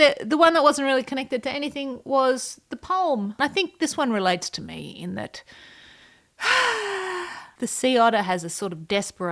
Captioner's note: sigh